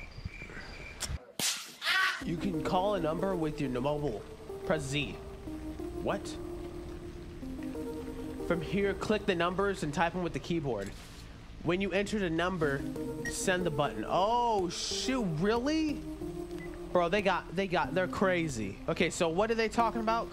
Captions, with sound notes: (screams) You can call a number with your mobile. Press Z. What? From here, click the numbers and type in with the keyboard. When you enter the number, send the button. Oh, shoot, really? Bro, they got they got they're crazy. Okay. So what are they talking about